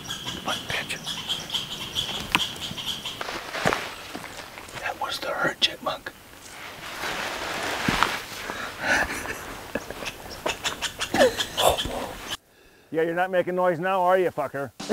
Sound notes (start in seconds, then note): 2.9 chirping Stops; 9.9 chirping Starts up Again